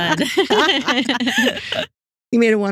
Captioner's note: both Laughing